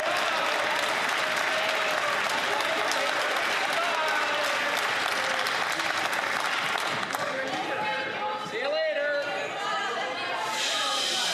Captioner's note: some Applause